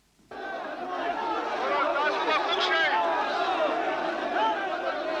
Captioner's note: villagers chant; police captain shouts in Pashto